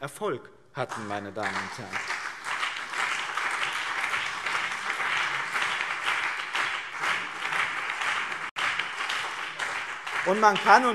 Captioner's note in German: Beifall BÜNDNIS 90/DIE GRÜNEN und CDU